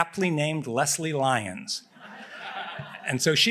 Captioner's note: laughter